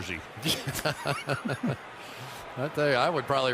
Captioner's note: laughter